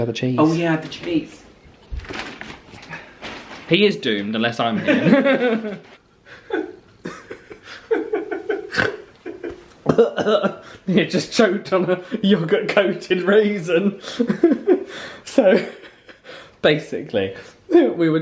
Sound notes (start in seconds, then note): 4.7 both laugh; 7.0 laughs; 8.6 choking; 8.7 snorts; 14.0 laughs